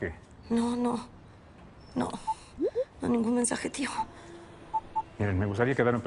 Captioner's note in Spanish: Bip